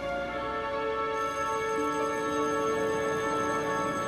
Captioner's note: bell rings